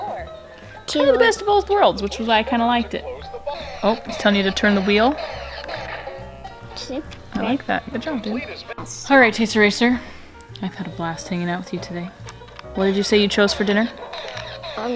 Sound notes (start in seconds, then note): 5.5 electronic game sounds